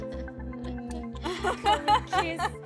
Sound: laughs

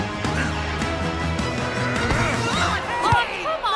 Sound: grunting

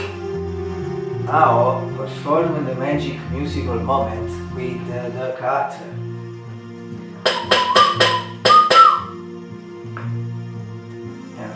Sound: whistle

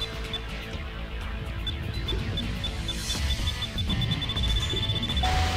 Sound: timer beeping

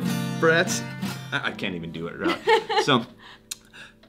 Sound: acoustic guitar strumming; laughing

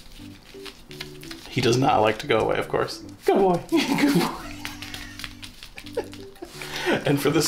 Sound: laughs

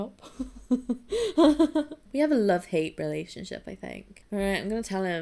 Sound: laughs

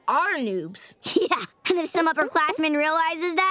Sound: giggles

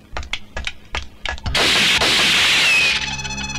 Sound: gun Firing

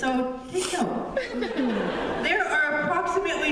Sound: laughter

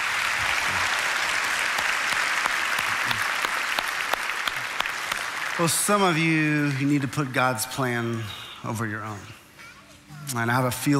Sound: applauding

